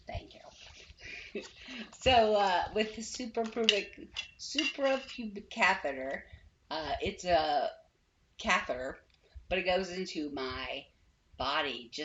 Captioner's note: mispronouncing it terribly